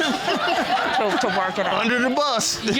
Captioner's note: chuckles; all laughing